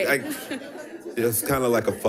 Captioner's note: audience laughing